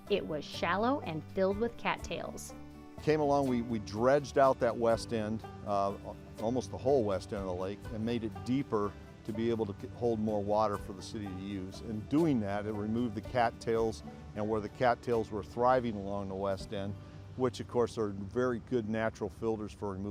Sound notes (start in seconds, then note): none